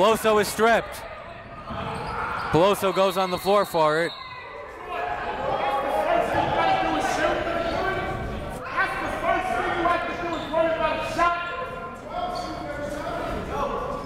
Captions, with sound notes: Peloso is stripped. Peloso goes on the floor for it. (whistle)